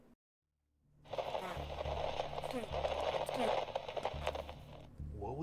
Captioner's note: mysterious, garbled radio transmission